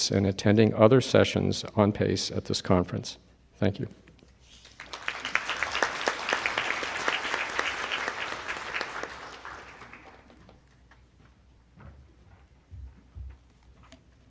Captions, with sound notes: and attending other sessions on PACE at this conference. Thank you. (group applauding)